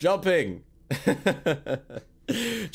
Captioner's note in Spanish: reír